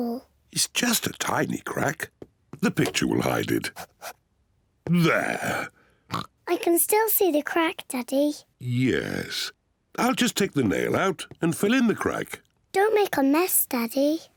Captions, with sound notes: It's just a tiny crack. The picture will hide it. There. (OINKS) I can still see the crack, Daddy. Yes. I'll just take the nail out and fill in the crack. Don't make a mess, Daddy.